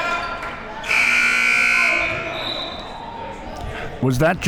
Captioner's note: buzzer sounding